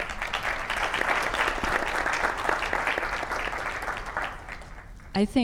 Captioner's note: clap